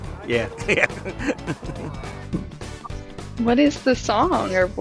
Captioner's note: chuckling